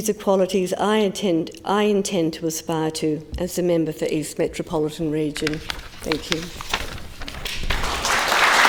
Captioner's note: applause